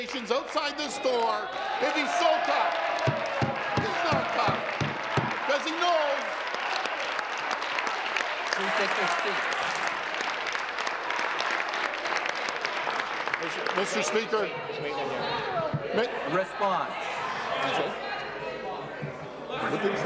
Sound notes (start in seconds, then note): 9.7 some Applause